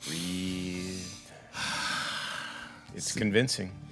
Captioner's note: Victor exhaling